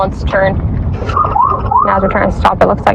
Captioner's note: pololicice sirens